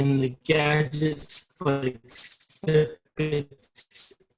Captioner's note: robotic sounds